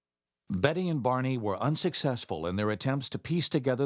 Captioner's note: voiceover